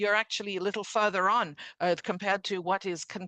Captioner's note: speaking French